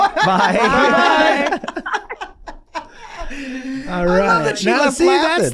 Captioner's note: everyone laughs